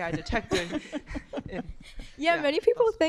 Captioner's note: laughter